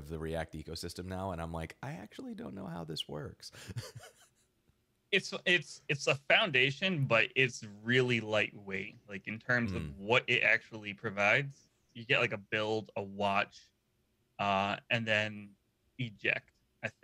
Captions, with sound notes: of the React ecosystem now and I'm like, I actually don't know how this works. (laughing) - It's a foundation, but it's really lightweight in terms of what it actually provides. You get like a build a watch and then eject I think